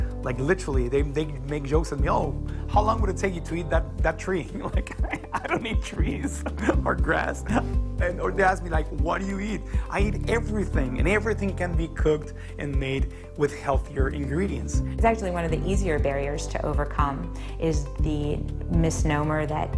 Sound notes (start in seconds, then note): 4.7 laughs